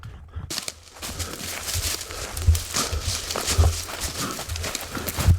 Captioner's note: leaves crunching